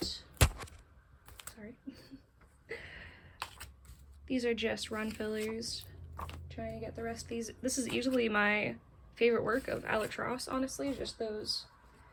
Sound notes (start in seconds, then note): 1.8 chuckles